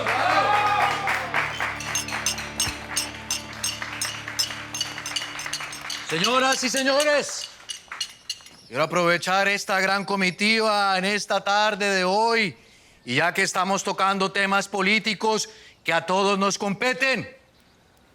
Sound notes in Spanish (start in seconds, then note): 0.0 Aplausos; 1.3 Lehder choca los vasos